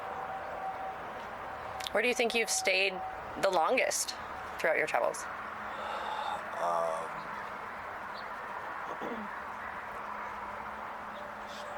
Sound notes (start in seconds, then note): none